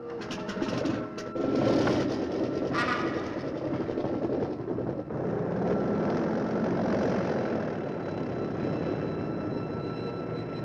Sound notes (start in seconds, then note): 0.7 plane rumbling